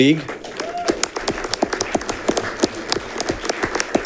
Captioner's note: audience clapping